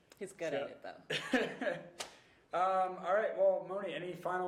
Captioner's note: host laughing